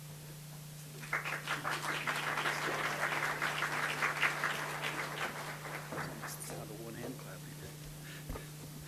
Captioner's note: audience applause